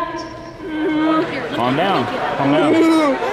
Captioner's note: whimpering; spectators cheering loudly